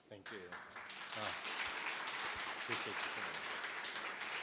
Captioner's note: applause